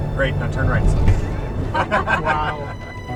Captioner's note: laughing; dramatic instrumental music